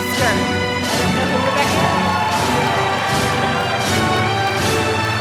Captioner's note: applause